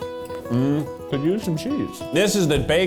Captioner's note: humming